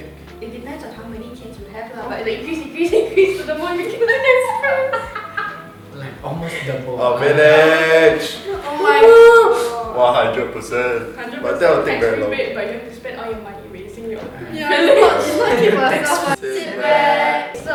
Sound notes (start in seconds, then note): 4.6 laughter